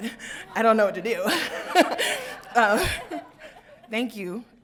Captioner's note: crowd laughing